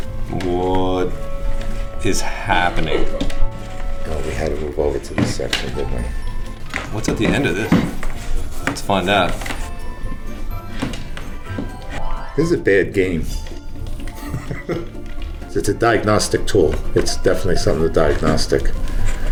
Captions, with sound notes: What is happening? Oh, we had to move over to the section didn't we? What's at the end of this? Let's find out. This is a bad game! [Laughs] It's a diagnostic tool. It's definitely something with diagnostic.